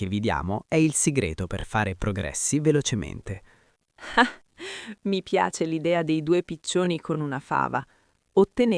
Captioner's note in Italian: risate